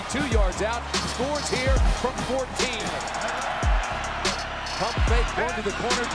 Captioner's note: crowd cheering